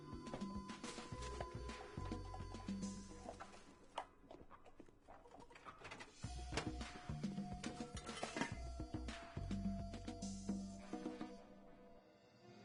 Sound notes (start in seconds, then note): 0.8 cups clattering